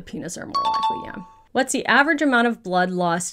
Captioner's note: question dings